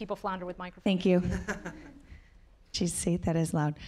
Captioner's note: audience laughing